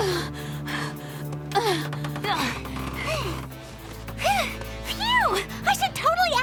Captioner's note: panting